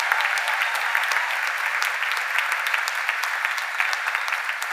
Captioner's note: cheers and applause